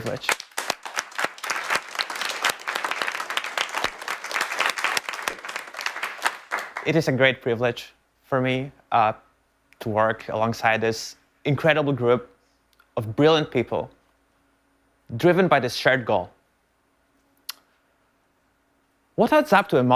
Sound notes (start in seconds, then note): 3.1 applause